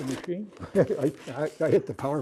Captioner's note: laughter